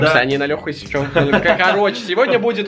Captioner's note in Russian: смех